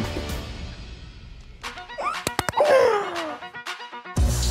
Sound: squeals

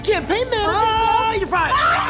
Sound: yelling

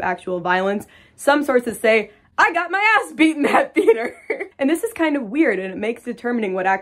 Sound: laughs

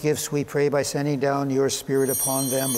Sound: bell ringing

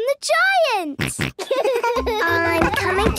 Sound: giggles, snorts

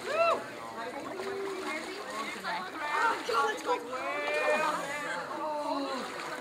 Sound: excited chatter

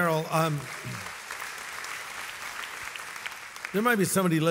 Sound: audience applauds

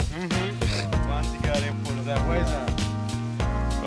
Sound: dink

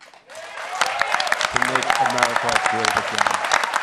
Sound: applause

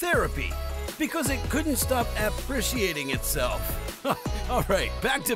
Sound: haha

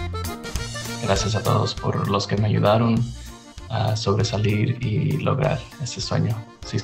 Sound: speaks in foreign language

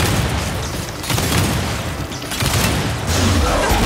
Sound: gunfire

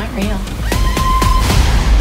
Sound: screaming

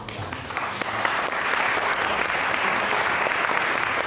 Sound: applause

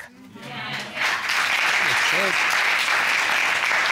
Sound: audience applauding

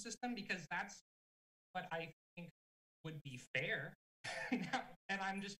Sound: chuckling

